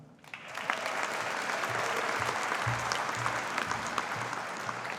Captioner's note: audience applauding